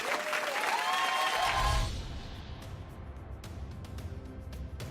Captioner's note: audience cheering